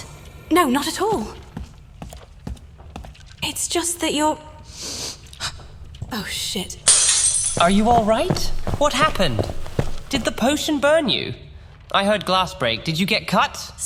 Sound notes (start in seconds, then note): 4.8 she sniffs and gasps; 6.8 glass breaks